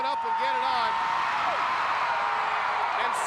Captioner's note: crowd cheering